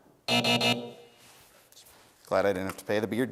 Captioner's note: buzzer sounds